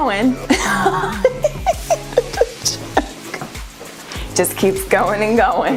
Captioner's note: laughs